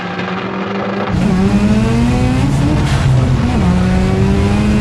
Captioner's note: engines roaring